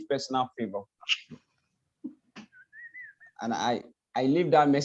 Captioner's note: laughs